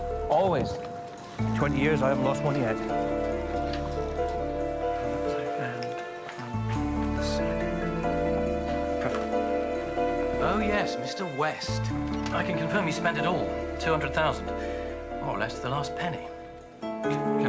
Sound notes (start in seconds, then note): 5.2 muffled chatter